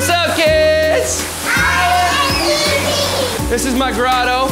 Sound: kids yelling

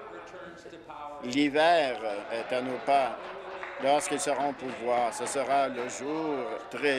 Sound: laughter

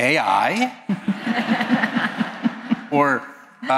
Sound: laughter

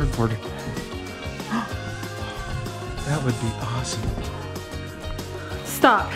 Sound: gasps

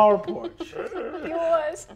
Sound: laughing

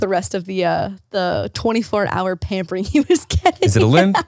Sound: laughs

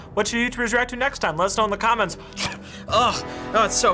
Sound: spits

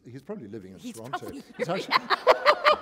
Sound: laughter

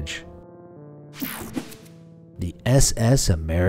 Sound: slide swooshing

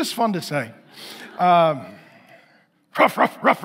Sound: congregation laughing

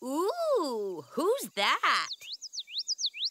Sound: bird chirps

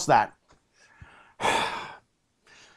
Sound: sighs

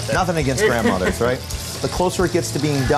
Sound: laughs

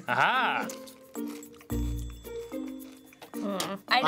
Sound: crunching

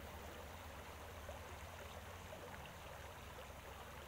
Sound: water gurgles

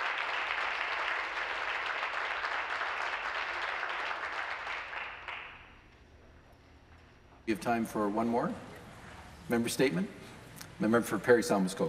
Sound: applause

